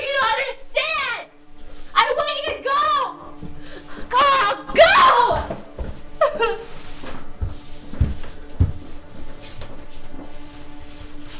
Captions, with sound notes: to understand?! I want you to go! Karl, go! (EMMA SOBS)